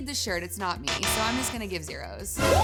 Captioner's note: electronic buzzer